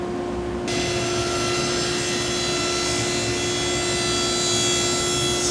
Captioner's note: cutting into wood